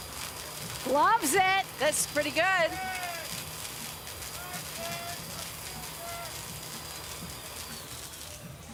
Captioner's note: applause